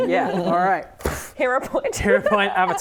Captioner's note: poof